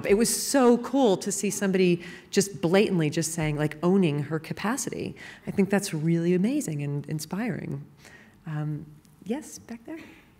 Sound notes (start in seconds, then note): none